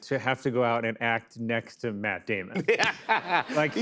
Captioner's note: laughs